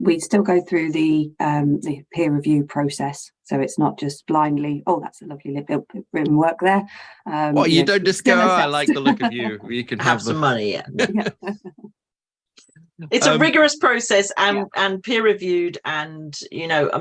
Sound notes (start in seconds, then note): 10.8 laughs